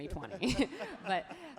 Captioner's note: laughs happily